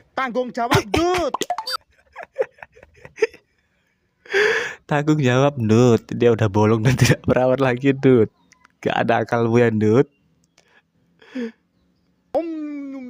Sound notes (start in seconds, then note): 1.9 laughs